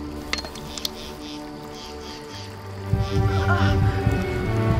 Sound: insects buzz; hammer clatters

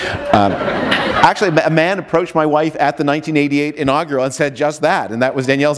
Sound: laughter

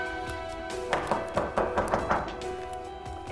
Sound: door knocking

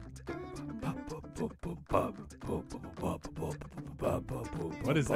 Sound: even more really poor beatboxing

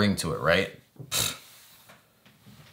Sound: pshh

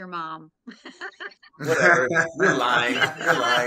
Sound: all laughing

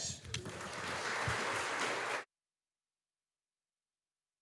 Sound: audience applauding

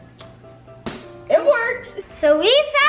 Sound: thwap

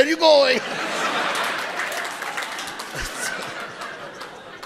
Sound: audience laughing

